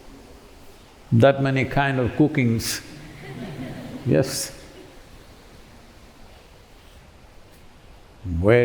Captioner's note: laughter